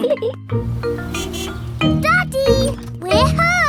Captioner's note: horn honks